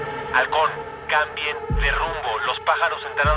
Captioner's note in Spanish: Nacho por la radio